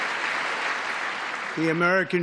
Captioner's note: applause